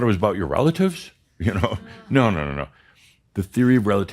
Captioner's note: Adamus chuckles